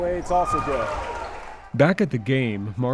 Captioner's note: basketball game sounds; radio Announcer